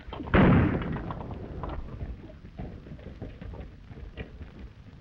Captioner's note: gunshots banging